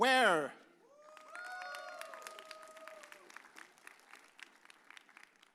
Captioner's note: audience cheers